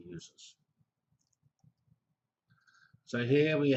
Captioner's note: pause